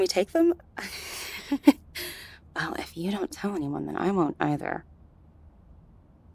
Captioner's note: sarcastic/Teasing Manner